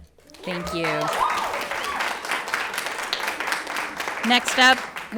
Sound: everyone applauds

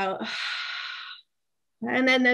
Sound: exhales

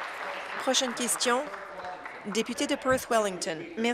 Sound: applause

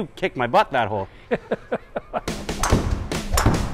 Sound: hehehe

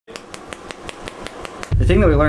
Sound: furious Snapping

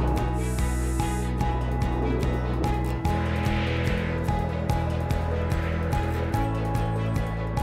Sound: jet engines; wind

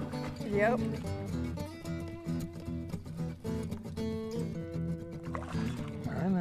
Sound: splashing

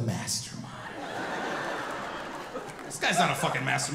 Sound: audience laughing

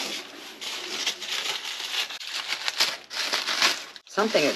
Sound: paper crinkling

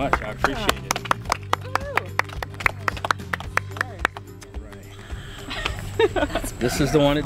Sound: applause

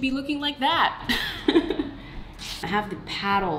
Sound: laughs

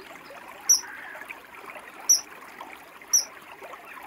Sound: chirping

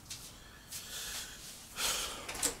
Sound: sighs

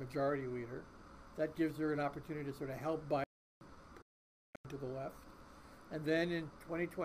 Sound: voice muffled

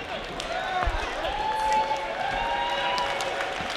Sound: crowd cheers

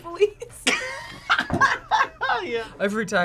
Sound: both laugh

